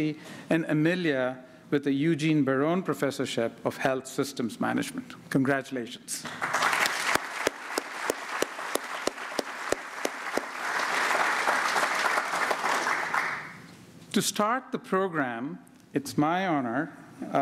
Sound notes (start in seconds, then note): 9.6 applause